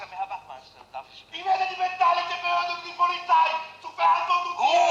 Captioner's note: Karl shouts in German